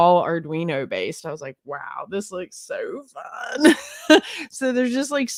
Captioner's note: giggles